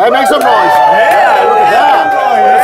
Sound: sound of intense cheering

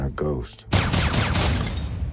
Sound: gunfire

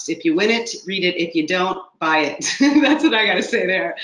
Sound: laughs

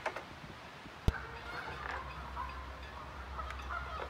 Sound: geese honking overhead

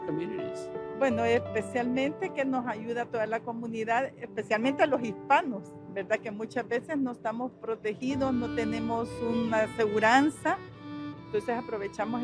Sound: Spanish

